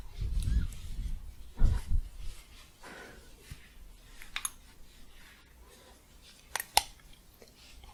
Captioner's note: shuffling, then click